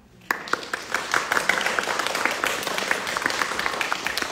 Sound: audience clapping

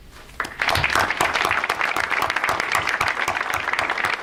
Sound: audience applauds

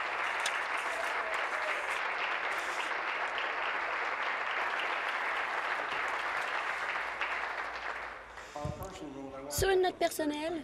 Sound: applause

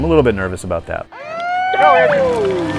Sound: starting horn

